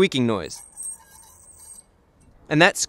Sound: indicator squealing on rotor

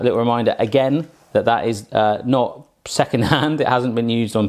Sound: laughs

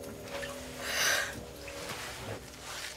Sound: sighs

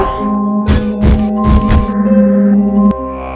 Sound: stomping; machine Humming

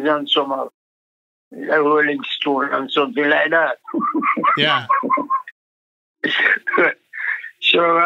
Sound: laughs

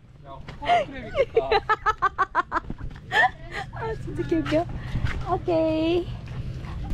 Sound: laughing

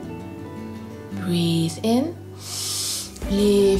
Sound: breathes in deeply

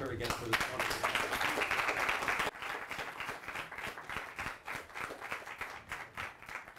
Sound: applause

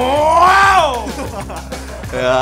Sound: both laugh

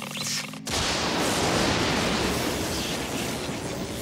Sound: thunder

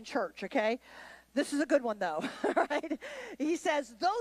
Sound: laughs

